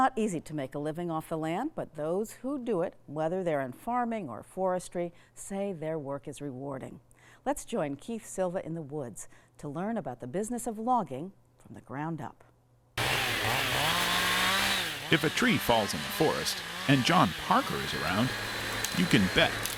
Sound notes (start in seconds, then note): 13.0 chainsaw revving